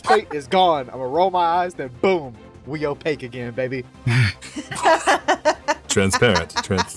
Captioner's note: laughs